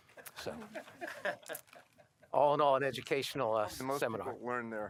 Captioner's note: laughter